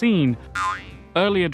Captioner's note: comedy boing!